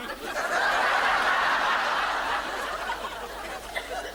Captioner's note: audience laughs